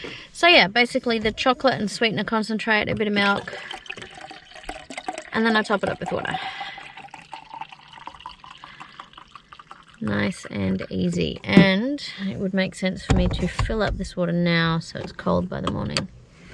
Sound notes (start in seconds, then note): 3.6 water glugs into drink container; 7.1 water continues to glug, slowly rising in pitch